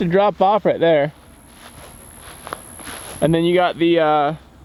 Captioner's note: footsteps plodding